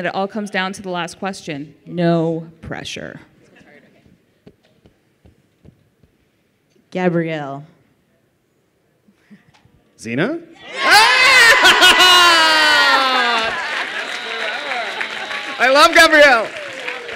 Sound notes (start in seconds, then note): 12.4 applause